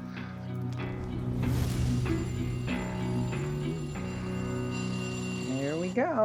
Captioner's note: timer ringing